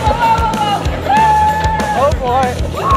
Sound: screaming

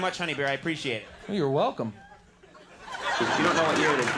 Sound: audience laughing

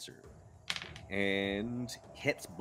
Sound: dice tapping

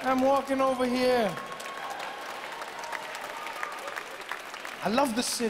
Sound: audience clapping

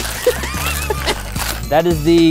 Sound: laughing

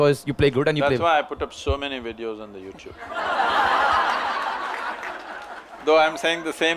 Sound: laughter

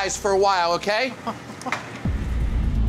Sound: man chuckles; tense music

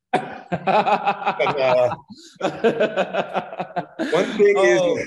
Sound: everybody laughing

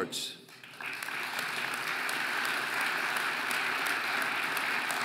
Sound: audience applauding

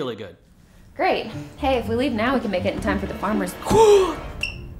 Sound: gasp

